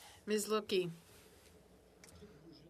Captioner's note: speaking French